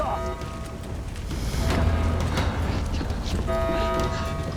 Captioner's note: alarms blaring